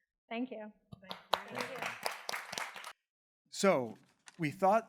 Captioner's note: attendees clapping